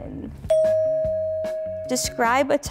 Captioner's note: bell dings